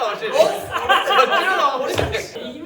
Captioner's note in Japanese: 笑い声